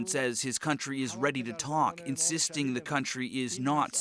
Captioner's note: speaking alternate language